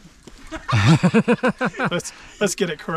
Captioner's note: laughing